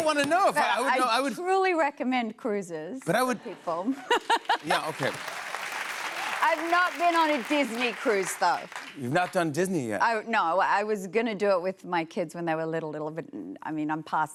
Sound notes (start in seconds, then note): 4.0 laughs; 4.5 cheers and applause